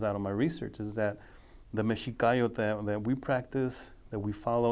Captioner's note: speaking foreign language